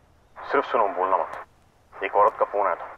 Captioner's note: Keshav on phone